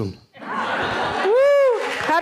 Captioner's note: laughing